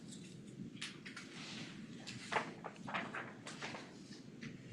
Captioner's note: paper rustling